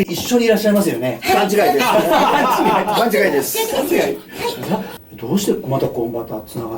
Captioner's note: laughs